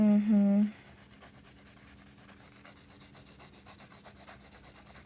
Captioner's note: pencil Writing